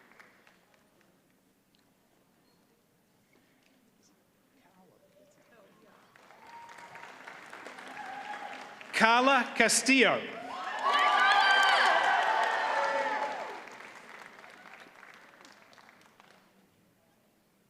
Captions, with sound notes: (audience applauds) Karla Castillo. - Yeah, Karla! (audience cheers and applauds)